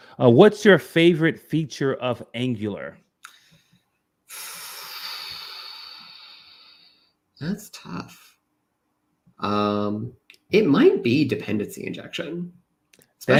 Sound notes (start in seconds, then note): 4.3 sighs